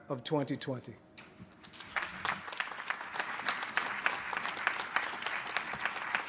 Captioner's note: applause